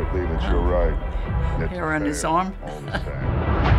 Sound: chuckling; ominous music

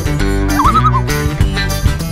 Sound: loon calls

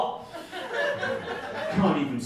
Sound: audience laughing

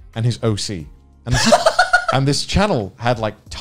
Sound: laughs

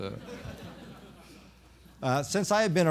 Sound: laughter

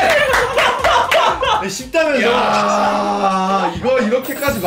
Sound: crying

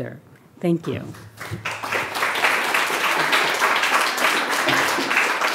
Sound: audience clapping

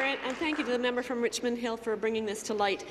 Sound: applause

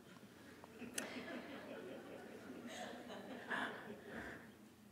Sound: audience laughing

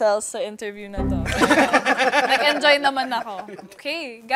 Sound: laughter

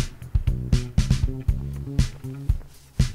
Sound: none

